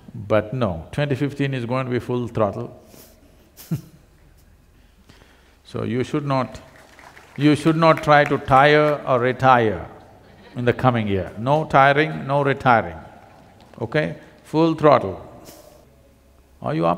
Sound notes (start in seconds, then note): 3.6 laughs; 6.5 applause; 10.2 laughter